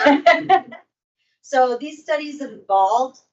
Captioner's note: host laughing